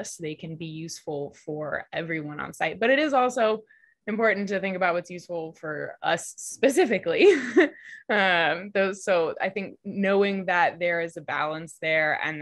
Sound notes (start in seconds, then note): 7.1 laughs